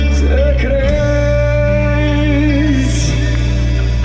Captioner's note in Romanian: Aplauze